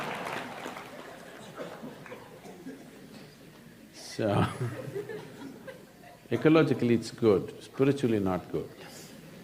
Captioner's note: applause